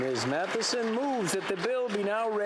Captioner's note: applause